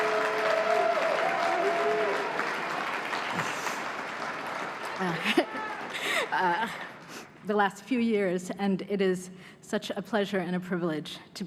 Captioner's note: applause